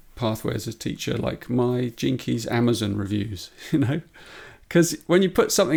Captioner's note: chuckles